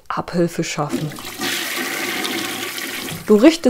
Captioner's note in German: Toilettenspülung